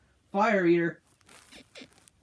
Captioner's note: bed squeaks